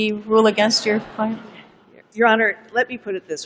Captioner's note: laughter